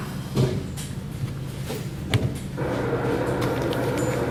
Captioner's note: whirring mechanical sounds